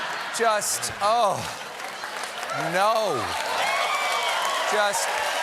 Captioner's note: cheers and applause